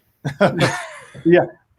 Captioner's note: laughing